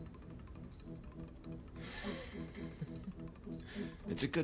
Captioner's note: man laughing